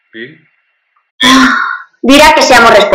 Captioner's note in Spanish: suspira